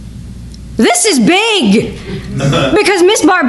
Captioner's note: excitedly